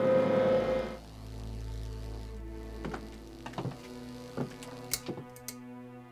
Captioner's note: electricity buzzing; light fixture clicking